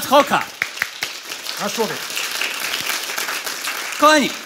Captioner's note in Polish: oklaski publiczności